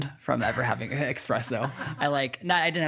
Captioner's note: laughing